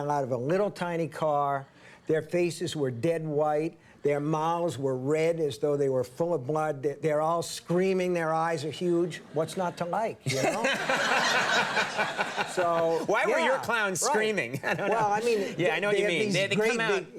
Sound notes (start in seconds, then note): 10.2 audience laughing; 10.3 Conan laughing